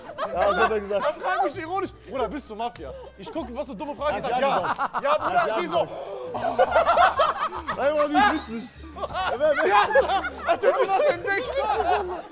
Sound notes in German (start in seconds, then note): 6.3 Gelächter; 9.1 Lachen, Gemurmel